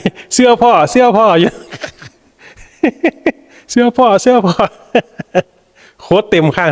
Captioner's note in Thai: เสียงหัวเราะ